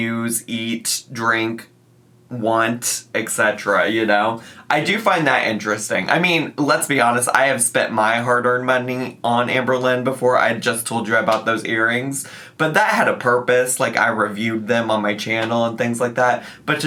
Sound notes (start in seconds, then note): none